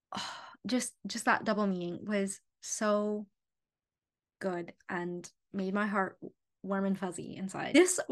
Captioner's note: sigh